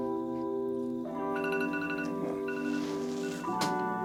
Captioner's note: phone alarm rings